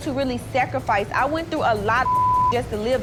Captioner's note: beeping